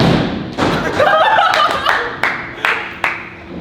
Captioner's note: everyone bursts into laughter